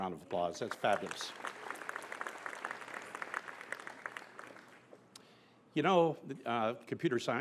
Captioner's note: applause